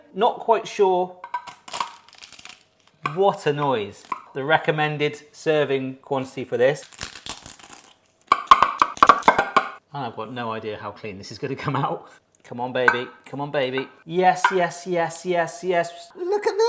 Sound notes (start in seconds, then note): 1.5 pastry crunching; 6.8 pastry crunching; 8.7 knife clacking